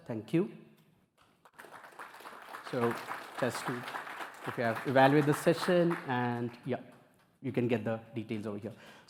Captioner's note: applause